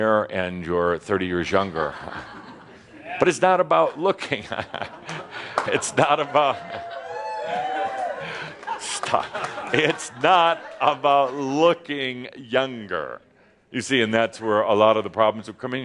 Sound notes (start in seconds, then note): 1.8 some chuckles; 4.4 chuckles; 5.7 some in audience are saying “Wooo!”